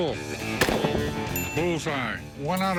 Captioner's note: gun shots; bell ding